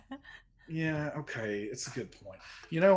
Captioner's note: person laughing